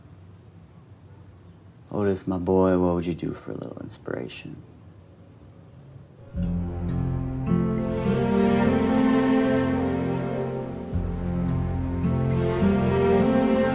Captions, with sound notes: Otis, my boy, what would you do for a little inspiration? (bright music) (waves lapping)